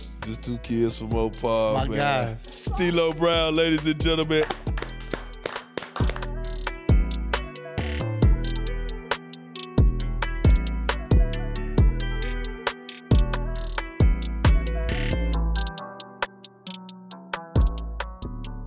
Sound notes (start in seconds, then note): 4.2 claps hands; 6.5 hip Hop music